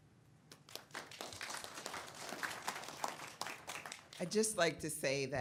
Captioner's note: audience applauds